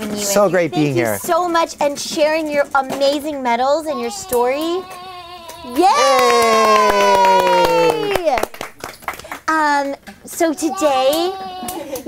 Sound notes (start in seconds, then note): 5.8 cheering and clapping